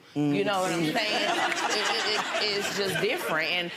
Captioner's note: audience laughs